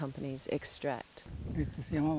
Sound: in Spanish

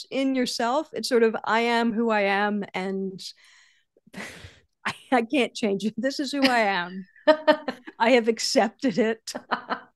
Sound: laughs

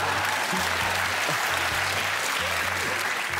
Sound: laughter, applause

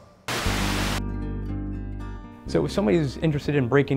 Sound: static

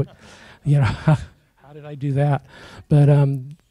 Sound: chuckles

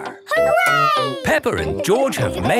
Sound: laughing

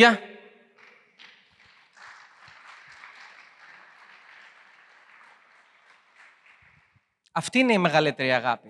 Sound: applause

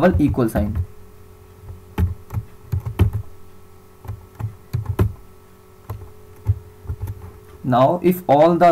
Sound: typing Sound

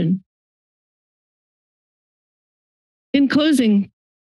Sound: silence

